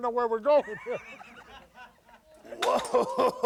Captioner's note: crew laughs